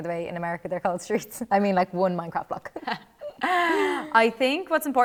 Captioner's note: laughter